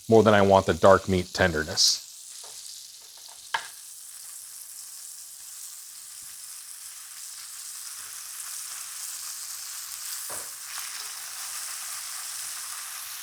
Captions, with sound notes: more than I want the dark meat tenderness. (breast meat sizzling)